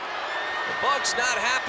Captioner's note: audience booing